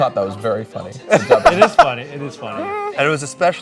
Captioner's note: laughing